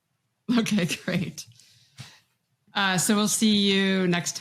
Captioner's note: chuckles